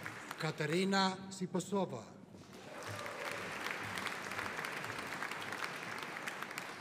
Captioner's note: audience applauding